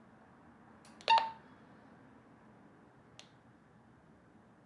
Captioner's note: walkie-talkie beeping